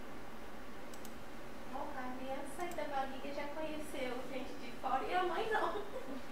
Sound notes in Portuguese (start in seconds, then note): 5.4 risos